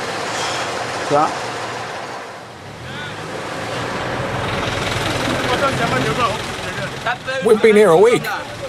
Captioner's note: foreign language